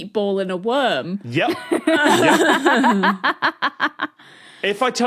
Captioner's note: laugh